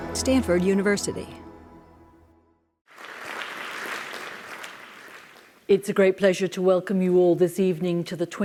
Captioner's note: applause